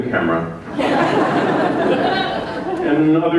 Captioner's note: laughter